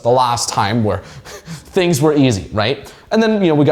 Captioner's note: chuckles